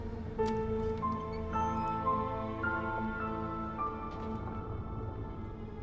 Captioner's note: door latch clicks; suspenseful music